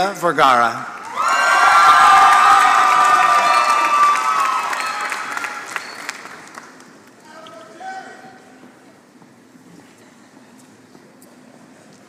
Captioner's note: applause